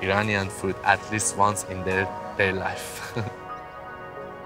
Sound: laughs

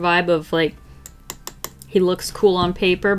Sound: pencil tapping on sketchbook

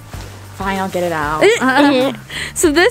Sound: laughs

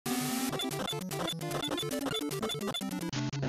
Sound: game Sound Effects

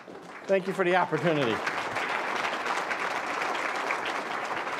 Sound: applause

